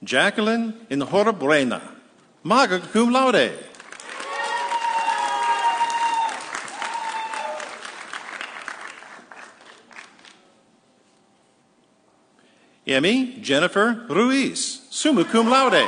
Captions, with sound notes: Jacqueline Enhorabuena, magna cum laude. (audience cheering) Emi Jennifer Ruiz, summa cum laude.